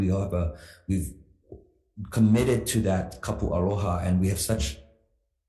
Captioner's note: speaks foreign language